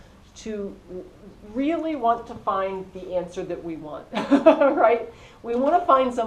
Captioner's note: laugh